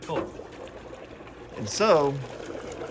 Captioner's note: bubbling sounds